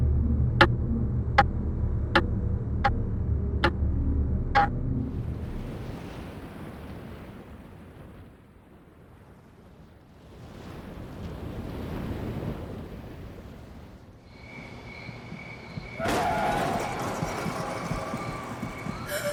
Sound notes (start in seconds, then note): 0.6 clock ticking; 15.4 tire screech, car crash noise, sirens